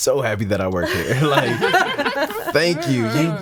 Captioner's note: laughing